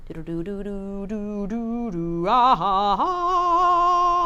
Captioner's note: hums